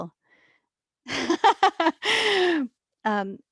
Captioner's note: laughs